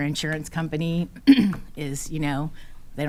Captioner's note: clears throat